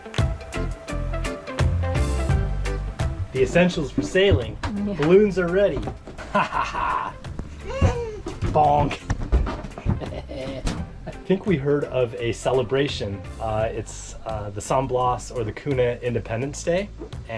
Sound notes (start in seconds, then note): 6.2 chuckling; 7.5 squealing